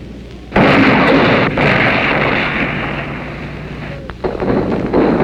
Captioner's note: guns firing in distance; explosions booming